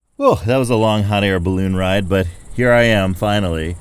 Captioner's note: water, nature sounds in background